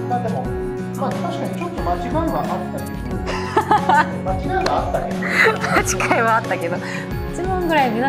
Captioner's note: laughs